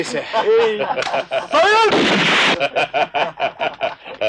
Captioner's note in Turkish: Silah sesi, kahkahalar